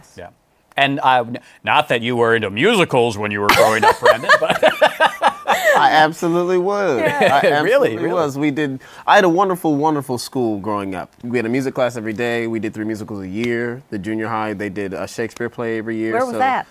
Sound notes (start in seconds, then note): 5.2 laughs